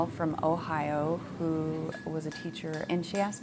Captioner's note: hammer clanging